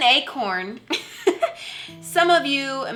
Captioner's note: laughs